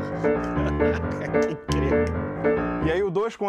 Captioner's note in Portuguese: rindo